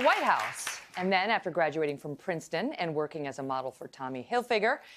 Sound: applause

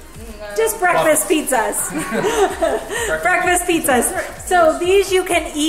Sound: laughs

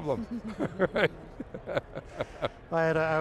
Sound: laughing

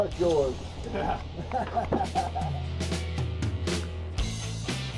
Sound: chuckling

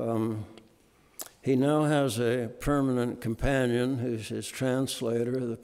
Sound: none

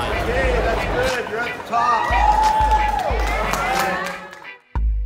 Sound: applause

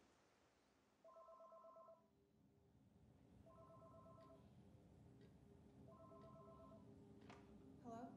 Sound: phone ringing

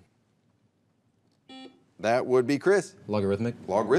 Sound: buzzer beeps

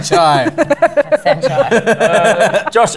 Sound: laughter

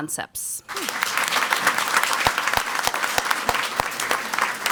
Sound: crowd clapping

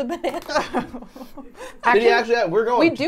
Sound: laughs

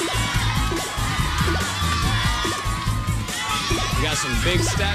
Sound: boinging; audience cheering

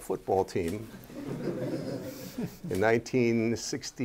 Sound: laughter

